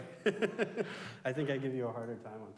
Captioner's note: chuckling